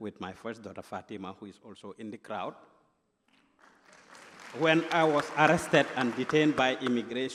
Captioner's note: applause